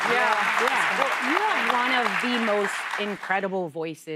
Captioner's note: applause